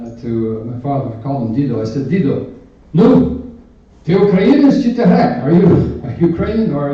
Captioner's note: non-english